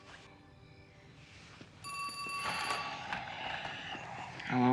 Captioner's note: ring; sighs